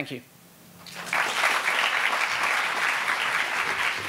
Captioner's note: applauding